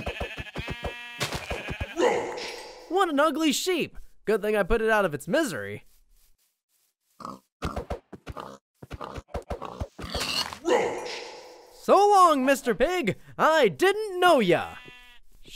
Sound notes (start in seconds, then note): 0.0 sheep bleating; 7.3 pig grunting